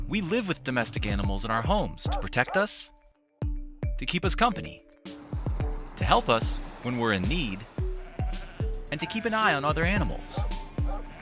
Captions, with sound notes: we live with domestic animals in our homes (dog barking) to protect us, to keep us company, to help us when we're in need and to keep an eye on other animals.